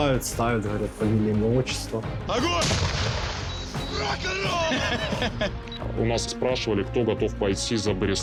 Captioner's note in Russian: смех